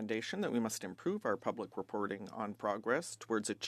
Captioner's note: speaking French